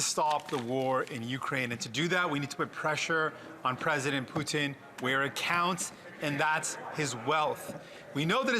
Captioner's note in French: voix de l'interprète